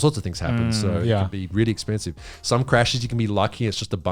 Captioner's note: all laughing